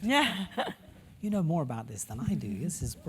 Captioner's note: laugh